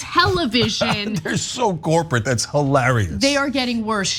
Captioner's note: laugh